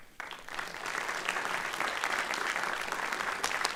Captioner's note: applause